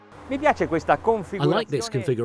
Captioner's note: speaking in foreign language